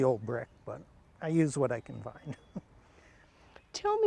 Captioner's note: chuckles